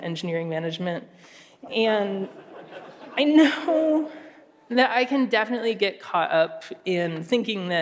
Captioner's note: laughter